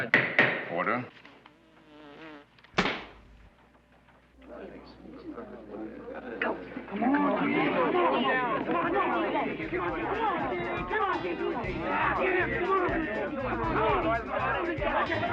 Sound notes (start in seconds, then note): 1.1 fly buzzing; 2.8 bang; 4.9 indistinct chatter